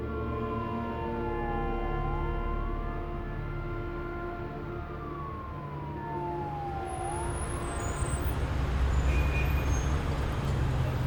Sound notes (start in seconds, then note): 2.0 police siren